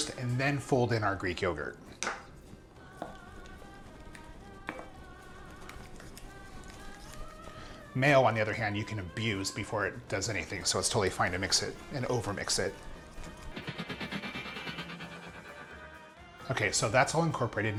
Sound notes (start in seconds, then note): 13.0 rapid vibrating